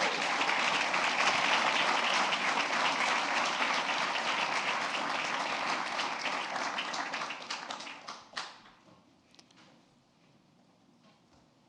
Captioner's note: applause